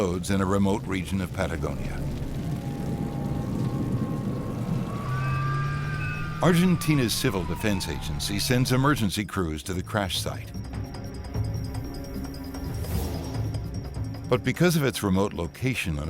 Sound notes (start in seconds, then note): 1.8 fire crackling; 5.0 sirens